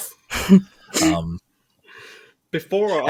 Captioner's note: chuckles